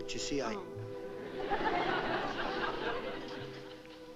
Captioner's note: laughter